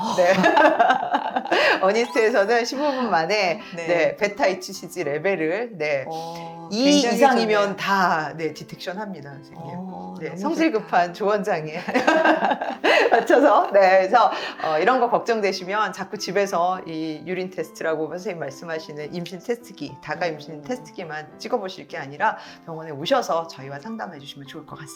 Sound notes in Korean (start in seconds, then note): 0.1 웃음; 11.7 웃음